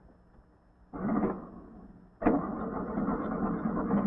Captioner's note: engine cranks, turns over